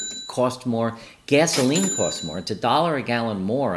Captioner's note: register clangs